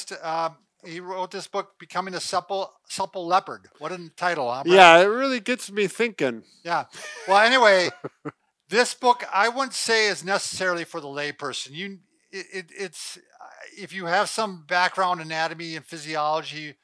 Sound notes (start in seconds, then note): 7.0 laughs